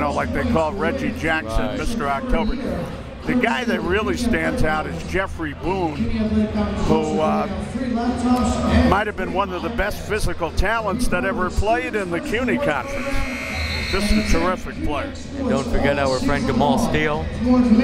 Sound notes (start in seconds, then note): 12.9 buzzer